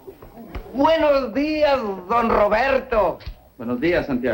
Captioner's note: speaking spanish